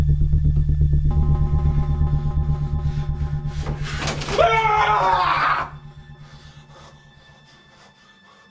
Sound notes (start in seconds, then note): 4.3 Larry yelling